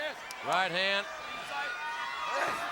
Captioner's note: audience chattering